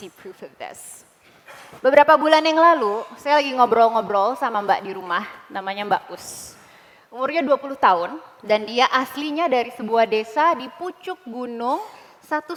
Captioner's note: non-english speech